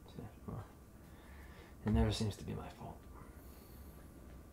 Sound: mutters

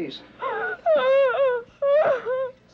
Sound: Anne wailing; Edith whispering

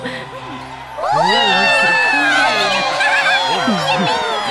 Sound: cheers from crowd

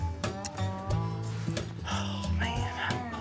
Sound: sighs

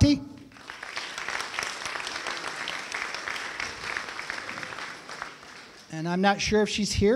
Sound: applause

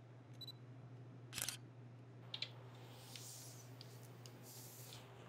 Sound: camera shutter clicking

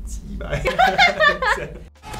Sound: laughs

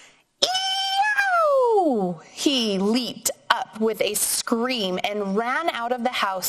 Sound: yells

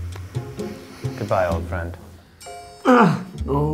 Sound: all sniffing

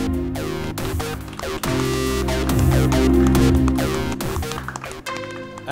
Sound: applause

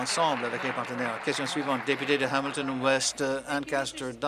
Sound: applause

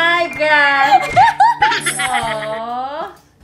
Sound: laughs

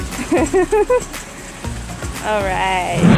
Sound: laughter

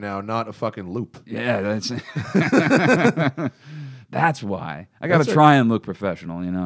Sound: both laugh

